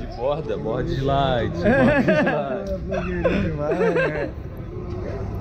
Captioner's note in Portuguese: risos